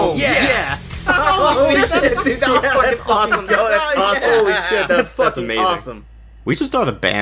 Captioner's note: cheering